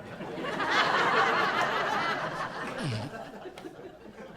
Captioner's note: laughing